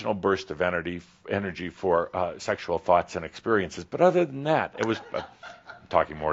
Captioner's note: a few giggles